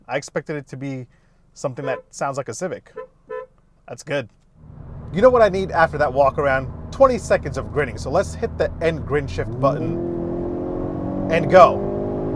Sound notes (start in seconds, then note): 2.9 klaxon honking; 10.2 motor roaring